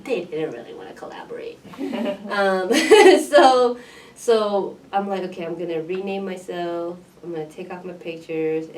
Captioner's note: laugh